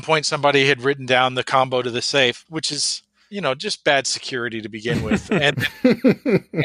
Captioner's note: laughs